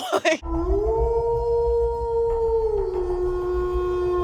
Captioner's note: wolf howling